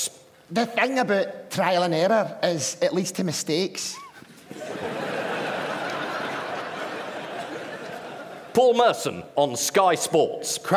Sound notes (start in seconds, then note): 3.9 laughter